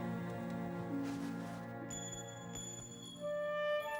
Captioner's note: clinking